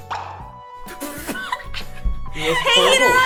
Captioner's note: muffled laughter